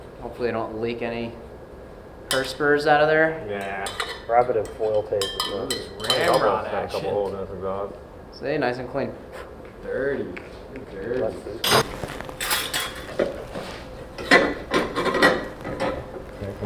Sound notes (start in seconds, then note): 11.6 metal clanks loudly